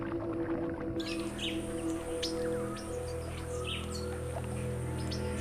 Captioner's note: birds chirping